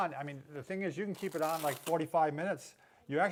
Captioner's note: velcro tearing